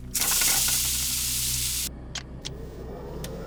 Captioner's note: sizzling